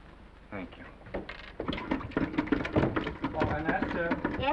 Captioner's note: handle rattling